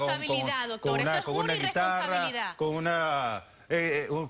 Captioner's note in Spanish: Hablan al unísono